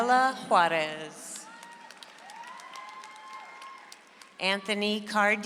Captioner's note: audience applauds